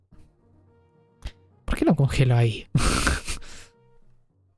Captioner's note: laughs